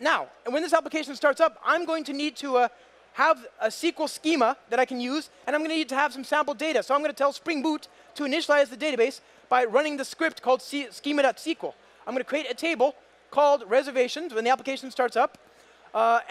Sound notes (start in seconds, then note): none